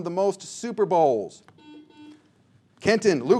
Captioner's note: buzzer sounds